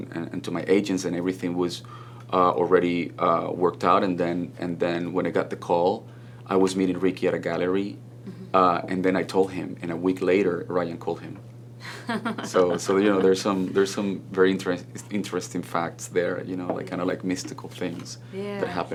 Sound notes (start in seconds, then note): 11.9 laughs